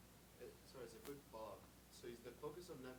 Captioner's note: voiceover